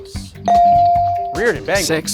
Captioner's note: bell dings